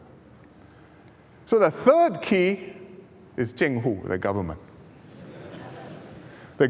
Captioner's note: laughter